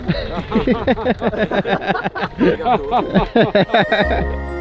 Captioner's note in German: Gelächter